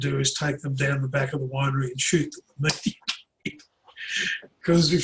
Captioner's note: laughs